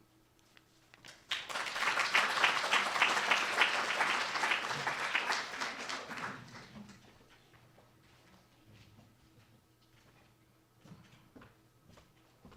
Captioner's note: applause